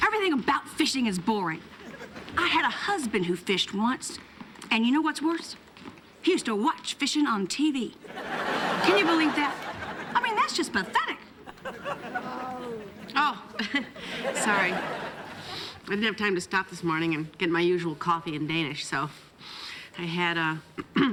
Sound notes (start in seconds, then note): 12.2 groaning; 14.0 giggles